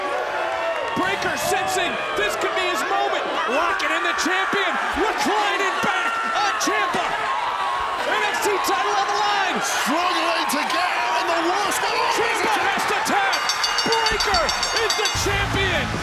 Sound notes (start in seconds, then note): 9.9 overlapping chatter; 13.2 bell dinging; 15.0 rock music